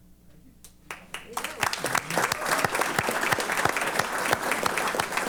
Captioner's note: applause